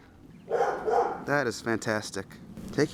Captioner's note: growling; Sasha barking